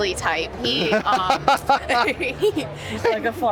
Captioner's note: laughter